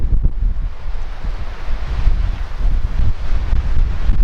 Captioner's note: wind